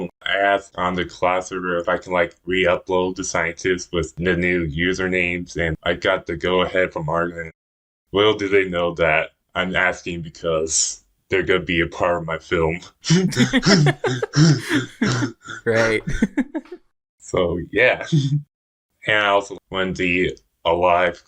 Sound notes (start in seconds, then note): 13.1 both laugh; 18.2 laughs